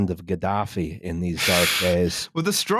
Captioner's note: blows out noisily